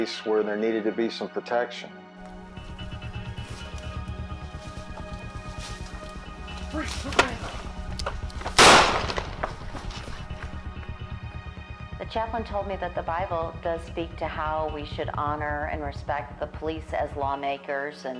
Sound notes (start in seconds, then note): 2.7 suspenseful music continues; 8.5 gunshot blasts; 8.5 suspenseful music continues